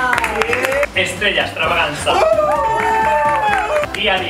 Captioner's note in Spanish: aplausos; aplausos